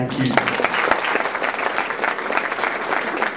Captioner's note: applause